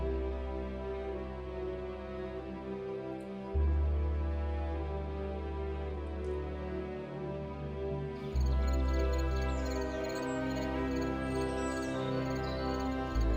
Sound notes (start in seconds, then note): 8.3 night-time nature sounds